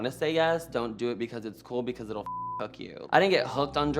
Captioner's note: beep